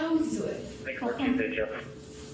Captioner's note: radio chatter